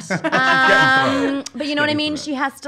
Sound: laughing

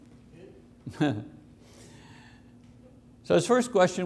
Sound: chuckles

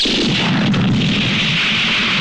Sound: explosion

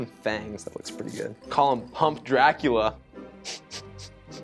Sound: laughs to self

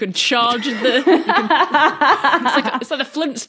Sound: laughs

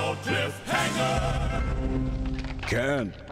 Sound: branch breaking

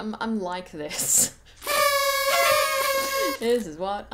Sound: sad party blower horn sound

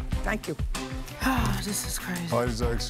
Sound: sighs

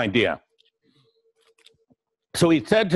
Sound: pause

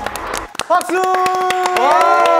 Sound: applause together

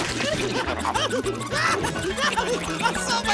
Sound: screaming

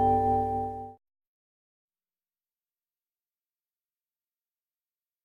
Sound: silence

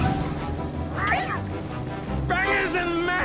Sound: meowing

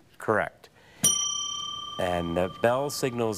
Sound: bell dings

